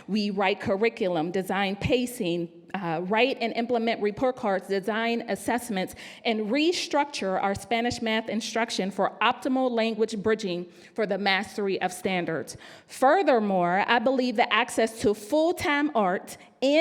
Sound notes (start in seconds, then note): none